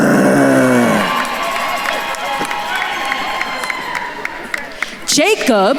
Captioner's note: attendees cheering and applauding